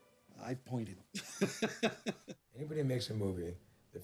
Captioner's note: laughs